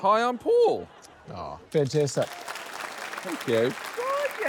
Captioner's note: laughter; applause